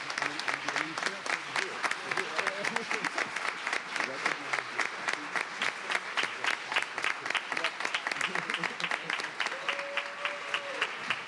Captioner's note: applause